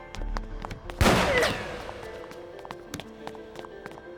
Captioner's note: gun firing